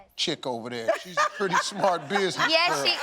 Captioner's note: laughs